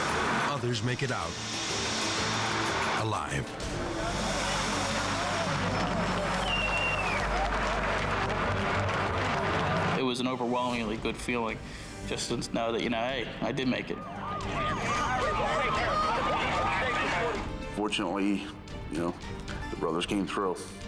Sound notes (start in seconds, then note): 5.2 firefighters clapping; 14.0 sire blaring